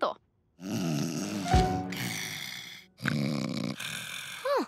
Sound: snoring

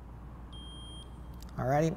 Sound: meter beeps

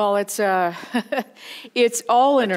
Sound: chuckling

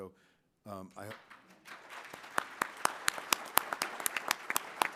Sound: applause

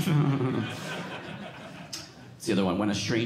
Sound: audience laughing

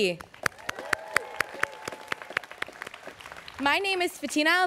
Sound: students cheering

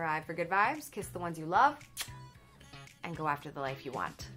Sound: smacks kiss

